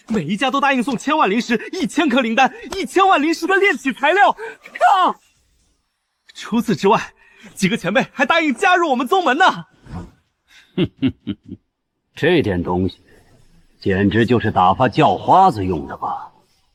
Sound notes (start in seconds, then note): 10.6 chuckles mockingly